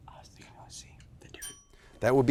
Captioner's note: bell ringing